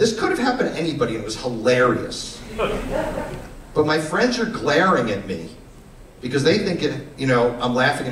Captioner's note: laughter